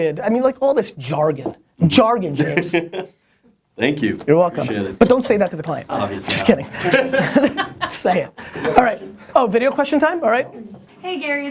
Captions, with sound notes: I mean like all this jargon. Jargon, James, - Thank you. - You're welcome. - I appreciate it. - But don't say that to the client. - Obviously. - Just kidding, say it. - [Voiceover] Video question. - Oh, video question time? All right.